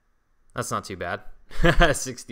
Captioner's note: laughs